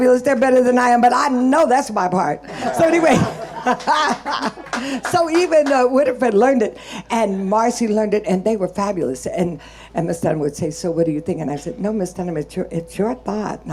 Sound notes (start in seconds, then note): 2.5 laughing